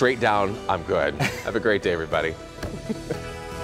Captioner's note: laughter